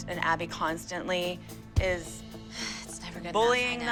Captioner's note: sighs